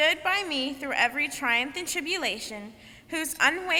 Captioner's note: none